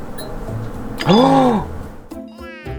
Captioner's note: surprised